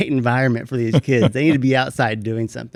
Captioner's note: laughs